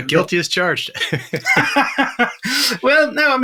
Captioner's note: laughs